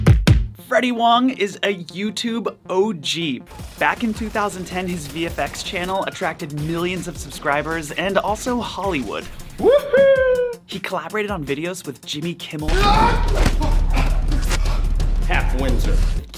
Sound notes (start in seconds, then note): 0.2 upbeat music; 3.6 guns firing; 12.9 man in red tie shouting